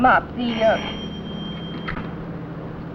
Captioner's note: phone rings